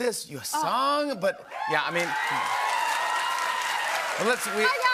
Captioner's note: cheers and applause